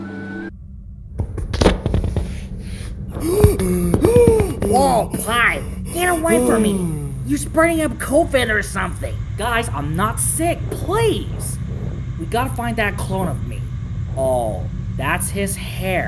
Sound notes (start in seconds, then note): 1.4 door closes; 3.1 panting